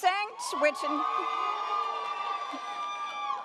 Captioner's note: audience cheers